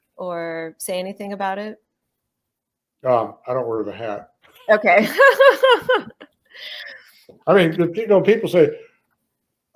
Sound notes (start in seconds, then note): 5.0 laughs